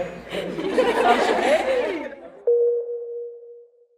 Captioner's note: girls laughing